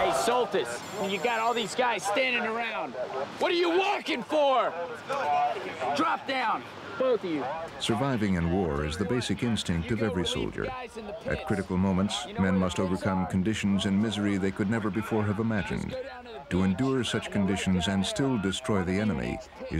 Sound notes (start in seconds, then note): 8.1 voiceover